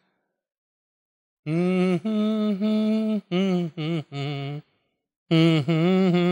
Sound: humming

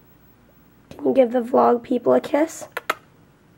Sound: makes kissy sounds

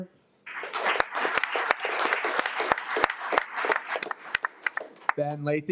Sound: audience clapping

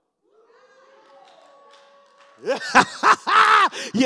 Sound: congregation shouts

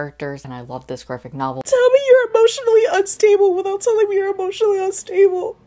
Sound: crying

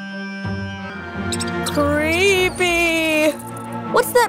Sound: bats squeaking

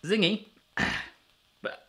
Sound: grunts

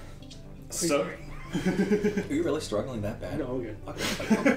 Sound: wheeze

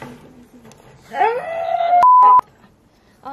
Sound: screams

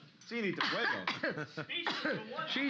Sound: coughing

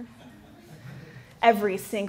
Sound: laughter

